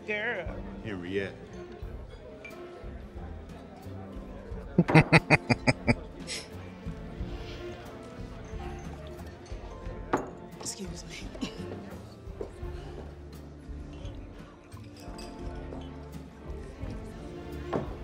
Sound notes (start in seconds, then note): 4.8 laughing